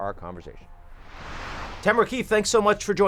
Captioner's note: screen swoosh out